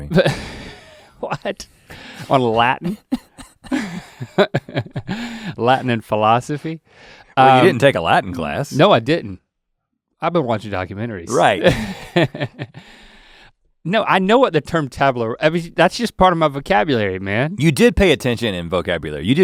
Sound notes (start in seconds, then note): 2.2 Rhett laughing; 2.7 laughs; 11.3 Link laughing